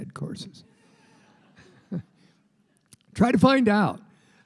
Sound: laughter

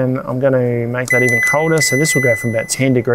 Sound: fridge beeps

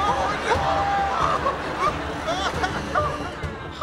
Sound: groaning

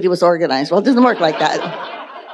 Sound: audience laughing

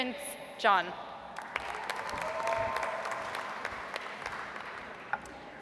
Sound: audience applauds

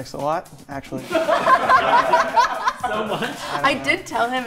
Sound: group laughing

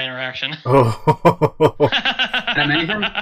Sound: laughs

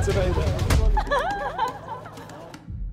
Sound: laughs

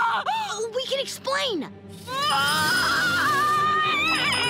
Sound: screaming; hissing; screaming

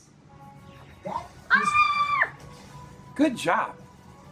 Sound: assistant screams

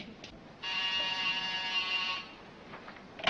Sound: phone rings

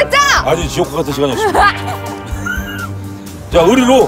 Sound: laughing

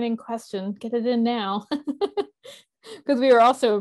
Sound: laughs

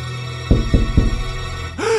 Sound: gasps

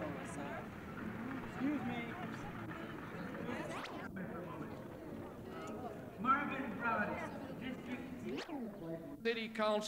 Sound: ambient crowd noise

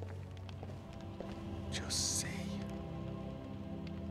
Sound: whisper

